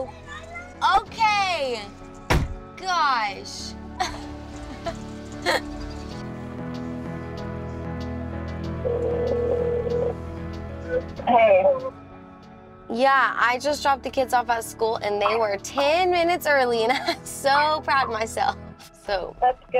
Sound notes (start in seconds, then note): 5.4 laughs; 5.5 warm pensive music; 8.8 phone ringing